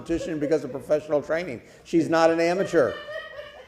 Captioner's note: laughter